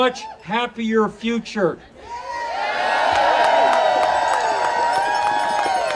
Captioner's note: audience cheering